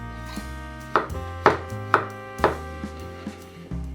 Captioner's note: knife slicing